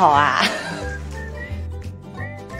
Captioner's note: laughs